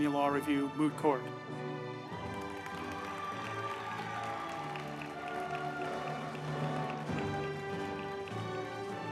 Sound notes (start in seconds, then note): 1.8 group applauding; 2.6 uplifting music